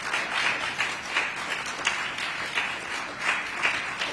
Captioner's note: applause